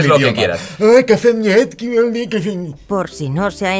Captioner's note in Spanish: Habla en brasileño